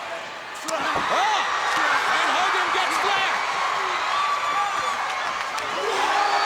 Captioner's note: crowd cheering; leather smacking; crowd cheering